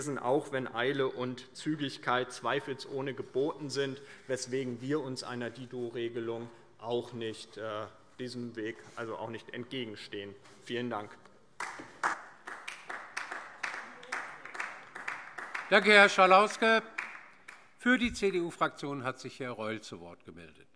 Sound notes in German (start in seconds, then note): 11.6 Beifall DIE LINKE